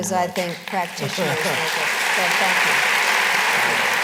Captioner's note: applause